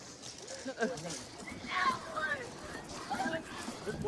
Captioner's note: yelling